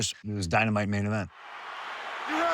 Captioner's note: cheering